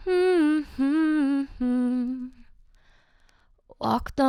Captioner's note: humming